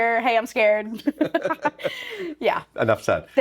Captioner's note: laughing